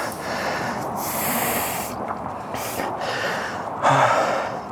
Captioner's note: heavy breathing